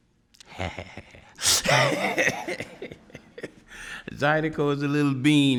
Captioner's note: laughs